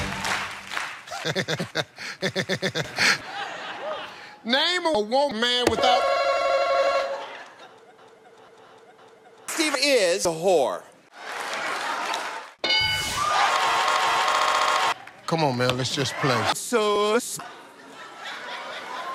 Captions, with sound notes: *Steve laughs rhythmically* Steve - Name a woman RuPaul - Steve is a whore Steve - Come on man let's just play RuPaul - SOS